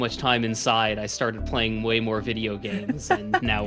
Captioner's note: chuckles